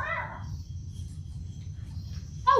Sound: meow

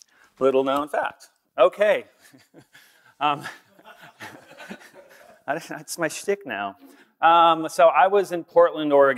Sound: laughter

